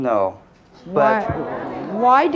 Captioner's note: audience gasping